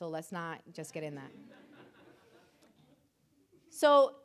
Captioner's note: audience laughing